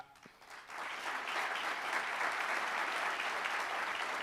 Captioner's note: applauding